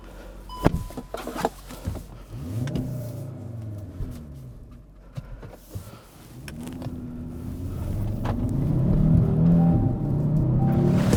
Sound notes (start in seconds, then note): 2.4 revving up; 6.3 engine roaring